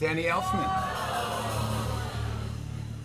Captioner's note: audience exclaims